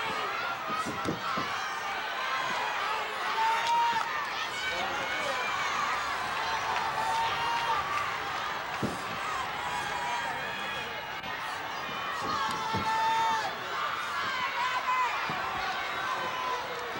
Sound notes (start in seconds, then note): 12.2 audience cheering and shouting